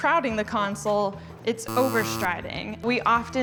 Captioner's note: buzzer buzzing